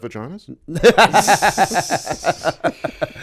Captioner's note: laughter